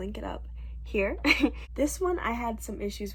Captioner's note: laughs